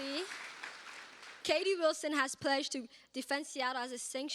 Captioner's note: cheers and applause